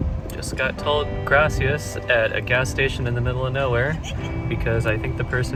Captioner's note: laughing